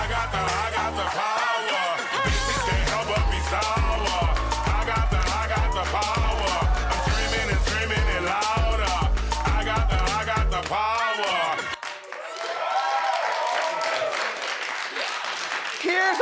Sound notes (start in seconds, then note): 10.5 audience claps